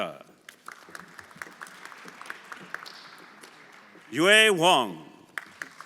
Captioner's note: everyone applauding